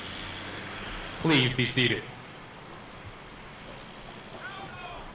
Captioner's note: voiceover; military commands off mic